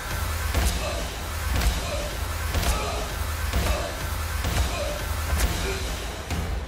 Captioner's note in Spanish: Quejidos